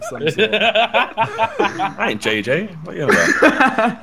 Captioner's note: laughing